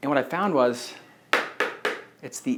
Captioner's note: marker knocking against whiteboard